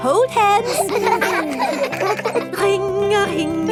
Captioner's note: giggling